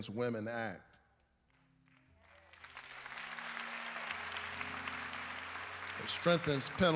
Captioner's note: applause